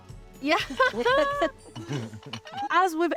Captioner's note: group laughing